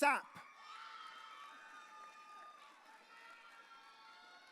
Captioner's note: audience cheering